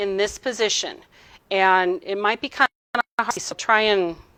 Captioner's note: audio distorting